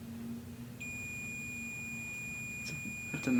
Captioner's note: REM Pod ringing